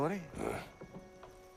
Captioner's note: grunt